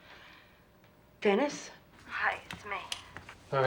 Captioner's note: on phone